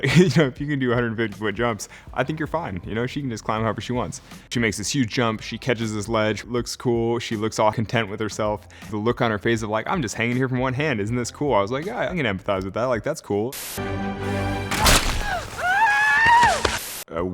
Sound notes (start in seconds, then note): 13.8 dramatic music; 14.5 rock shattering; 14.7 Wonder Woman screams